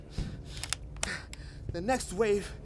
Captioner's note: gun cocks